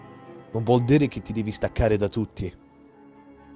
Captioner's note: renzo speaks italian